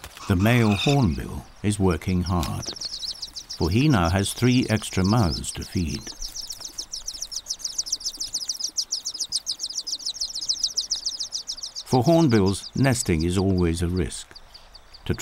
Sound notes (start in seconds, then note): 6.0 birds chirping